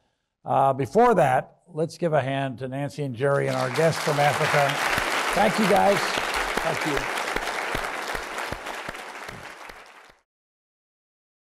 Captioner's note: applause